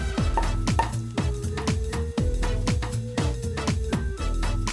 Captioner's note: corks popping